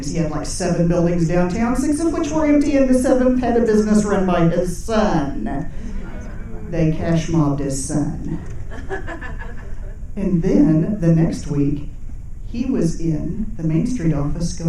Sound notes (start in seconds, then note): 5.7 audience chuckling; 8.3 people laughing